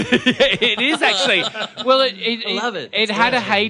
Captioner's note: laughs